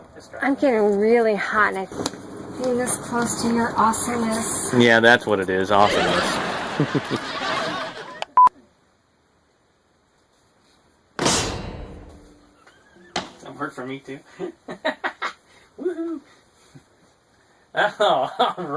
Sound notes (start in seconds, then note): 5.7 laughing; 8.3 click and beep; 11.2 clank; 15.7 chuckling; 15.7 giggling